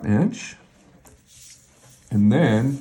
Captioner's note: ruler sliding